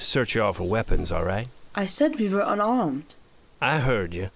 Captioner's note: accented